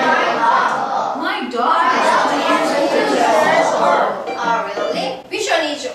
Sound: chattering

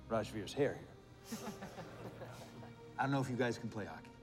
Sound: laughter

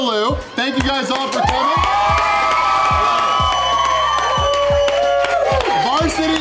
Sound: crowd clapping and cheering

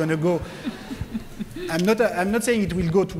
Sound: laughter

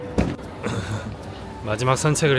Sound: clears throat

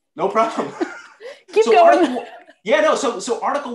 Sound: laughter; laughter

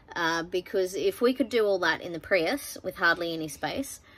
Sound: none

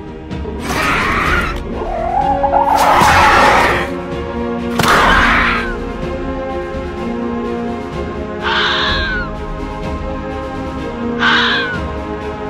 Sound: fox Sounds

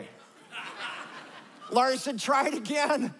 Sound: laughter

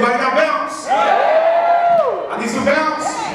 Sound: all cheering

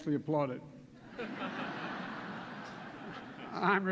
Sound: laughter

